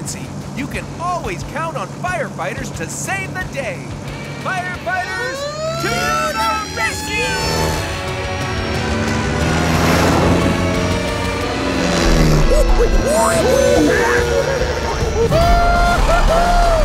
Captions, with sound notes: you can always count on firefighters to save the day. Firefighters... ...to the rescue! [siren blaring] [chattering] Whoo hoo hoo!